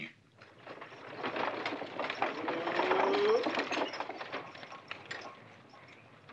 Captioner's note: carriage rattling